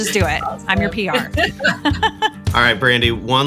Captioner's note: laughs